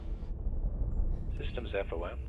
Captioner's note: rocket engine roaring